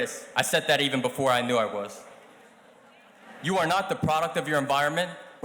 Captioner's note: none